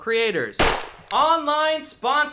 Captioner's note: gunshot